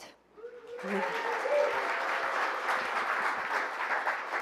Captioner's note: applause